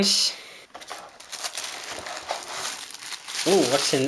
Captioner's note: crackling